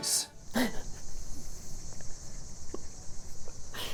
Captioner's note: laughing